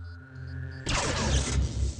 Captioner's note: zap!